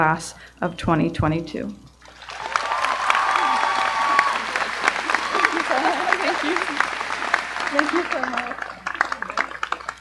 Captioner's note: applause